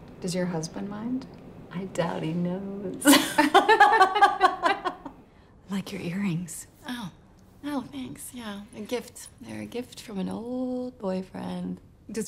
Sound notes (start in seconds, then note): 3.1 laughing